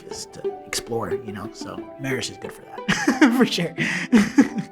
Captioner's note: laughs